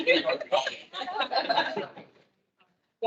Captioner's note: attendees laughing